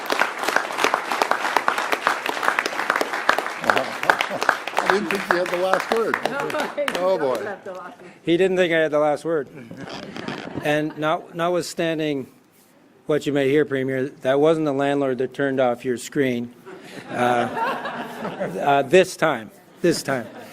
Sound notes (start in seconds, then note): 7.3 applause